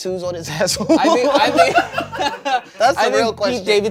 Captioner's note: everyone laughs